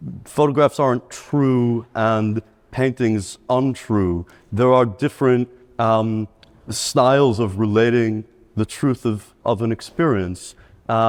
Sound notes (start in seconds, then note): none